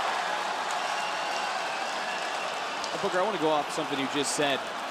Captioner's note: crowd cheers